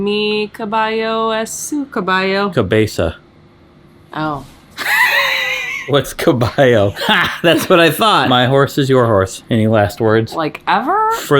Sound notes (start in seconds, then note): 4.8 laughing